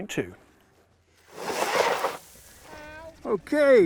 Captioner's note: rocky dirt crackling; motor whirling